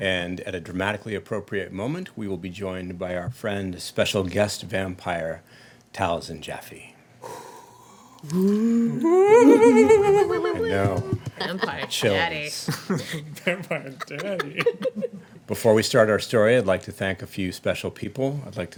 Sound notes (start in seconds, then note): 7.2 loud exhaling; 7.3 ghost moaning; 12.7 laughing